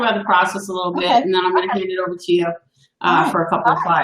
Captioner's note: coughs